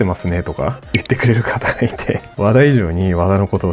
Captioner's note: laughs